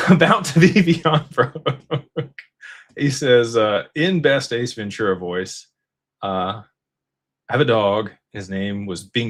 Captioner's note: laughter